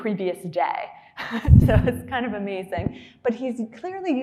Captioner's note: laughing